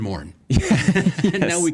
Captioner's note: both laughing